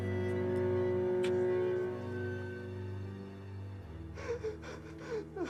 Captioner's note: William sobbing